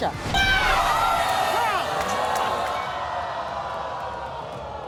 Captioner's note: audience groaning and shouting